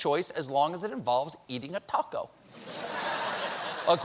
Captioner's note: laughter